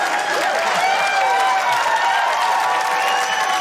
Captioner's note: cheering